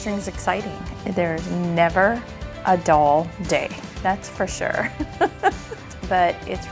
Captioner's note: laughs